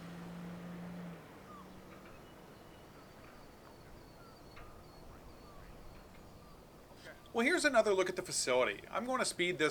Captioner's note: birds chirping